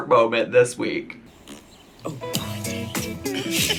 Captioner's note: farts; upbeat music